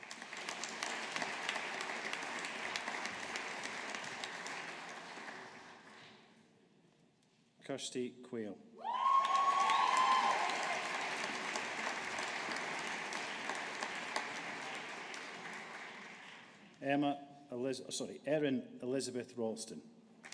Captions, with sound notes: (AUDIENCE APPLAUDING) Kirsty Quail. (AUDIENCE APPLAUDING) Erin Elizabeth Ralston.